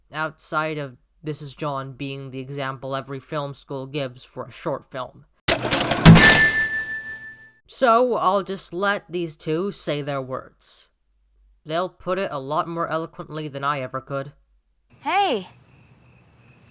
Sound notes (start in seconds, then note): none